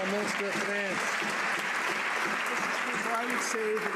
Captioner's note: some Applause